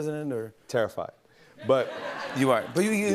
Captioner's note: laughter